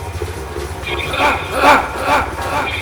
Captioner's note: yell